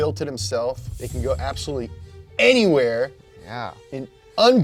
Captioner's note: air whooshing